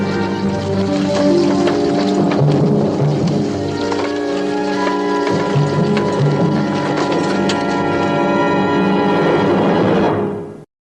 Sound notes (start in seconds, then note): none